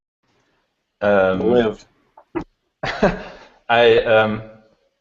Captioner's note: laughing